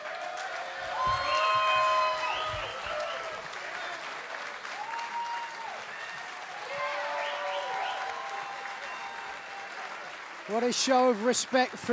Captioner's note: cheers and applause